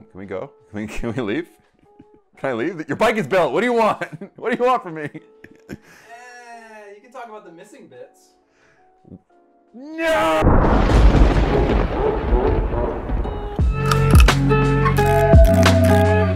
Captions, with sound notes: Can we go? Can we, can we leave? Can I leave? Your bike is built! What do you want? What do you want from me? No! (lightning cracks) (chill music)